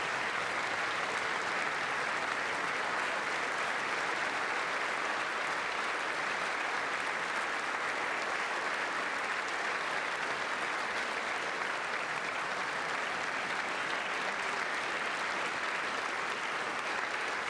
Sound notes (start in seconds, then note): 4.4 applause